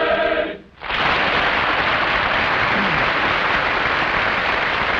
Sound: audience applauding

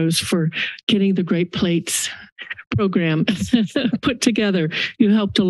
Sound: laughs

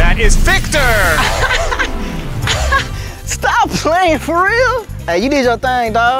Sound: laugh

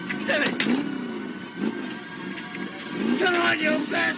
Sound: engine revving

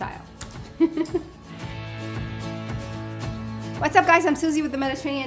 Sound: laughing

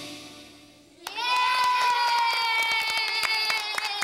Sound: cheering and clapping

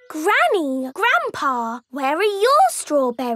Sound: none

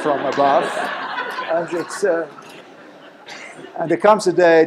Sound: laughter

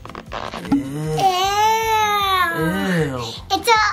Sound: exclaims

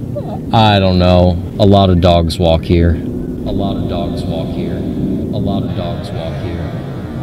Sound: echoes

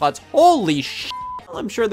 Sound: beep

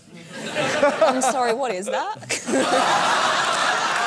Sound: laughter

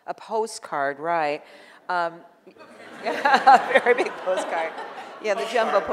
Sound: audience laughing

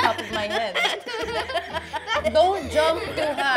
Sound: laughter

